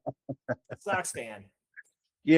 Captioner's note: laughing